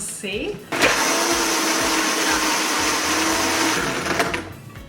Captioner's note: blending sound